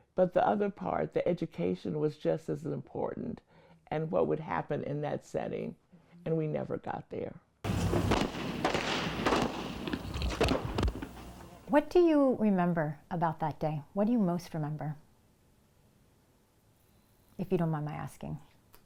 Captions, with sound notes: but the other part, the education was just as important and what would happen in that setting, and we never got there. (gunshots booming) - What do you remember about that day? What do you most remember, if you don't mind my asking?